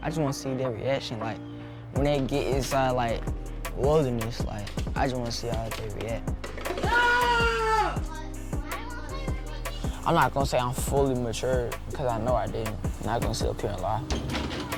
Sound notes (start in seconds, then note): 6.7 shouts